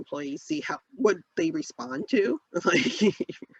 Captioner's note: laughs